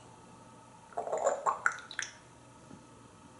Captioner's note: drinking sound